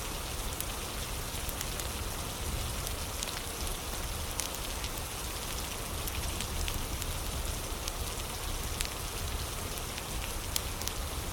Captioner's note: fire crackling